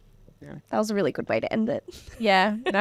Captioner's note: laughing